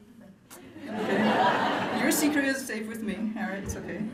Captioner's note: laughter